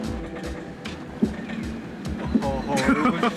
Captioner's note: engine knocking; incredulous laughter